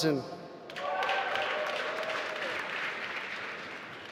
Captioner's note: applause